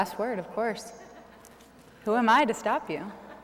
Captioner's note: laughter